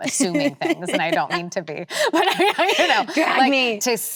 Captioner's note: laughs